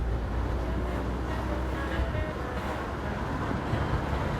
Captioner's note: car radio playing